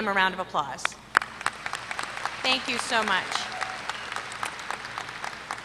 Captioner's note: applause